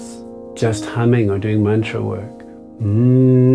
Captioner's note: humming